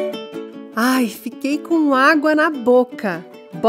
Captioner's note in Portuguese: Voz em off